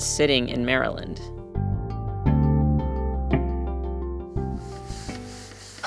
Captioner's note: soundbite of archived recording